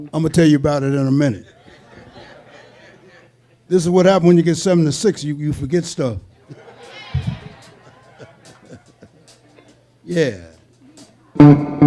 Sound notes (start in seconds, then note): 1.4 audience laughing; 6.3 audience chuckling and cheering